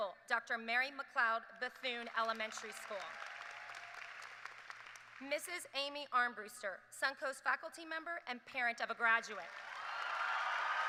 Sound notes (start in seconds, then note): 1.8 applause; 9.4 applause